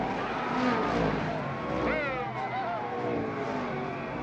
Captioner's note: fans cheering